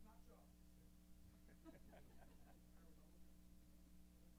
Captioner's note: laughter